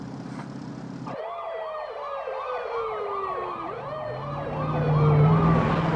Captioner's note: police sirens alarming